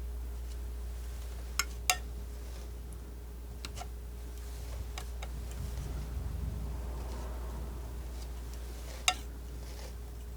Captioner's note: tapping